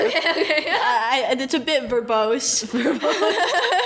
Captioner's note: laughs